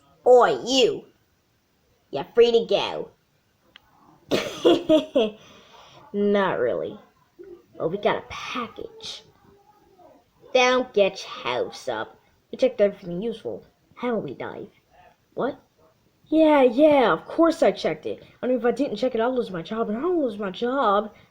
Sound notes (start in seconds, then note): 4.2 laughs